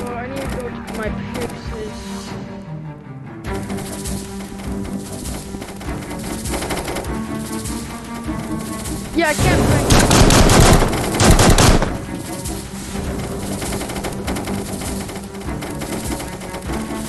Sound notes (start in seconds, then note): 9.9 gunshots drown out whatever he was saying